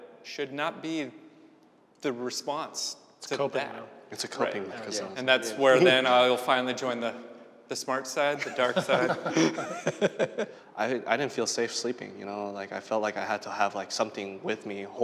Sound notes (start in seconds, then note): 8.3 all laughing